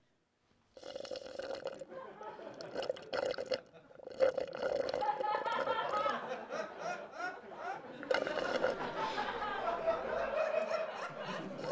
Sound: slurping

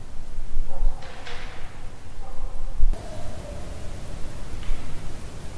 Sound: knocking sound

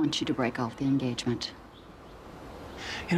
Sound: stammering

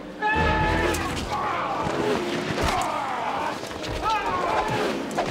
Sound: men yelling and grunting

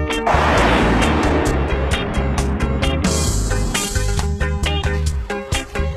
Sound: sound of planes flying; upbeat keyboard music continues

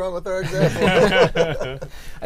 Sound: laughter

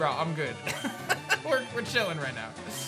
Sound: laughs

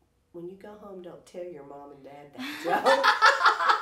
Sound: laughing

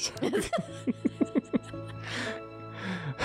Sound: both laugh

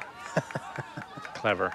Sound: laughs

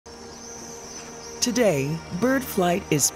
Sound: birds chirping

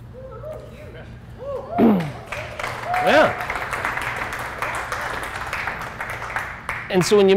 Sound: room Applauds

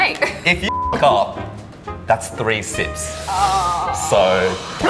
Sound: beep

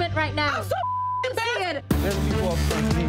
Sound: beep

